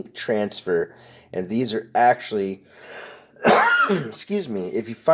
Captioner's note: coughing